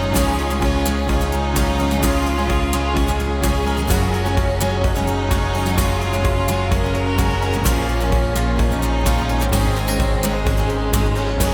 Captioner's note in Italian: Applauso